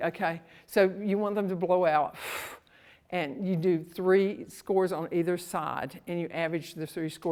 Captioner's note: exhales